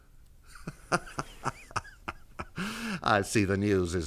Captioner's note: laughs